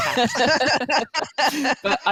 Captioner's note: laughter